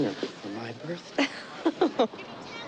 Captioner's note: laughs